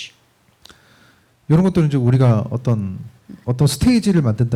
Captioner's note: speaking korean